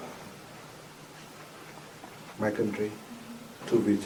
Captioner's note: none